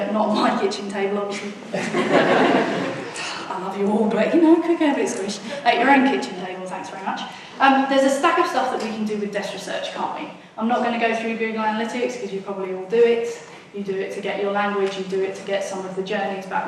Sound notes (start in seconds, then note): 1.4 laughs; 1.5 audience laughs; 3.1 sighs